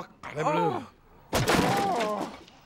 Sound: groaning

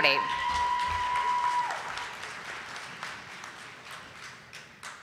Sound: audience applauding

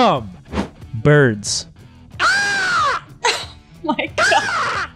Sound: ravens cowing

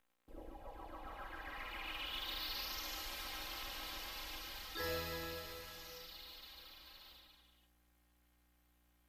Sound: 32-bit video game sounds, followed by a 32-bit chord at the end

